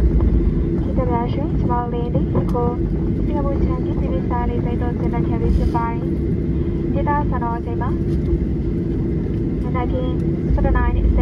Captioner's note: cabin crew announcement in Burmese